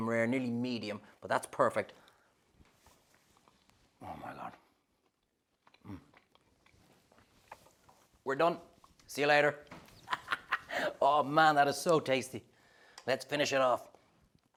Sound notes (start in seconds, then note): 10.0 laughs